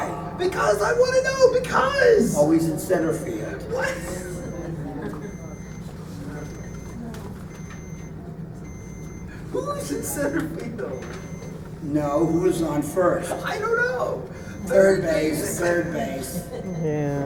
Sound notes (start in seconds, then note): 9.3 laughing